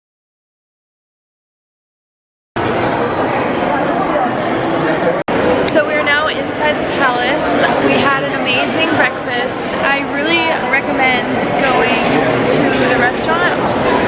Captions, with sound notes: (people chattering) - So we are now inside the palace. We had an amazing breakfast. I really recommend going to the restaurant.